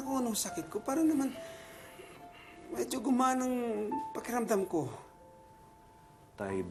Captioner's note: sighs